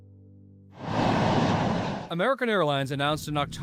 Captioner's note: plane soaring